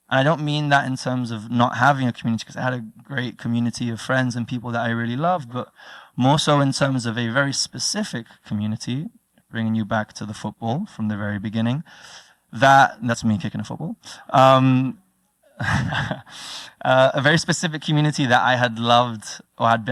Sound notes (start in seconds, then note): 15.6 laugh